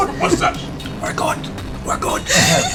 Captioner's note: whispers